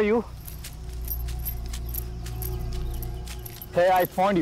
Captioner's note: Rustle of the leaves